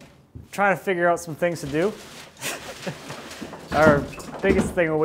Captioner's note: laughing